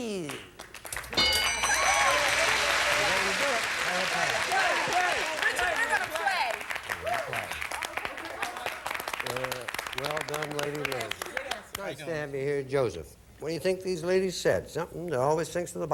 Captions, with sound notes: Keys? [audience applauding] That's the way to do it. Play or pass? Play! Play! Richard, we're gonna play. They're gonna play. Well done, Lady Lizz. How you doing? Nice to have you here, Joseph. What do you think these ladies said?